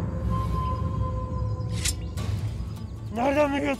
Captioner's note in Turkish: Bıçak çekme sesi